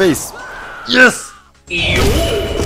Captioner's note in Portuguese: som do jogo